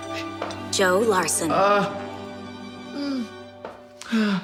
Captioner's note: groaning